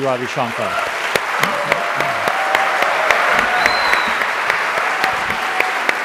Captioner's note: audience cheer and applaud